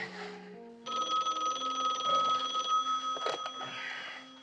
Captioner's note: phone ringing